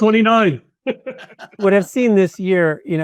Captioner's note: attendees laughing